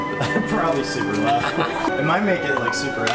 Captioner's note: laughs